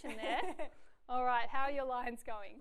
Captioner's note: laughs